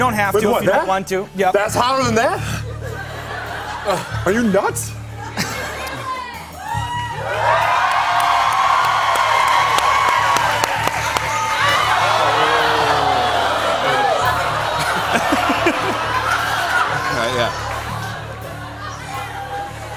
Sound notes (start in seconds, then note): 5.1 cheers and applause; 11.1 audience groans